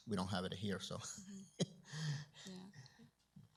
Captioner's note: chuckles